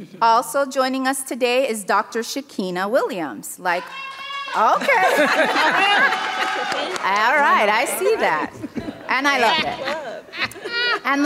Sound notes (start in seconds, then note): 3.8 audience cheering